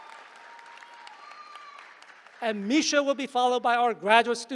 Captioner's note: applause